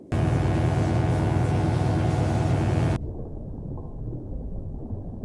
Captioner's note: electric buzzing